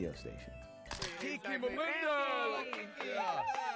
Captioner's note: cheering and clapping